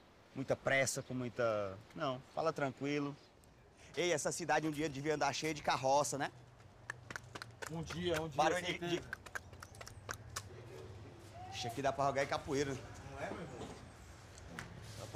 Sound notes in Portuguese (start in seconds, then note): 6.5 imita trote de cavalo; 6.6 imita cavalo trotando